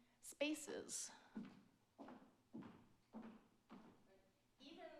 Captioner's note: footsteps clomps